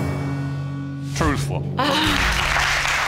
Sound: sighs contenly; audience applauds

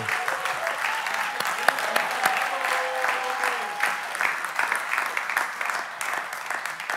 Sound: congregation cheering; clapping

